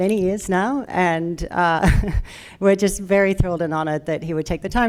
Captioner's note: chuckles